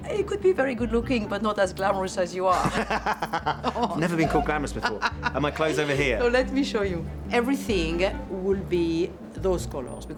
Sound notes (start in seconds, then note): 2.5 both laughing